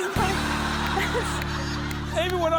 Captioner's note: laughter